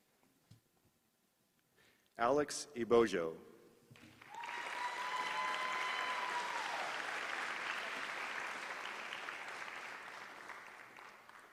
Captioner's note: applause